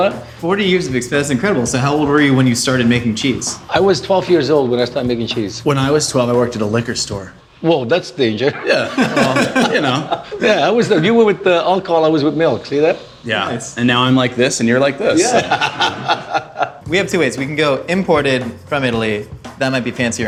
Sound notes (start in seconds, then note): 8.4 laughs; 15.1 laughs